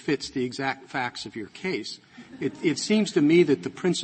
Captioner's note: laughter